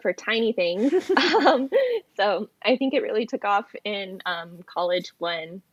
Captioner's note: laughs